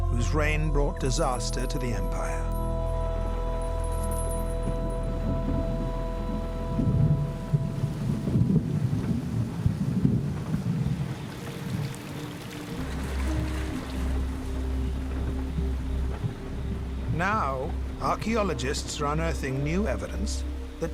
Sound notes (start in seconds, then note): 5.7 thunder rumbling; 11.4 raining; 13.8 soft music